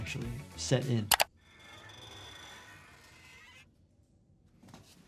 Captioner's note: mouse clicking